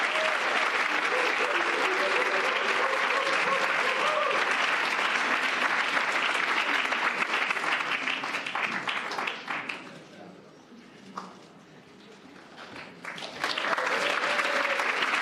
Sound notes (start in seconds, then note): 6.6 cheers and applause